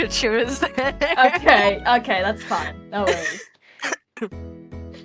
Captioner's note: exhalely laughs